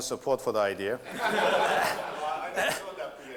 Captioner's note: laughter